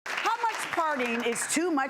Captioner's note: audience clapping